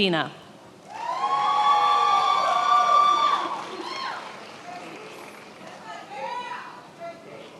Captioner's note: attendees applauding and cheering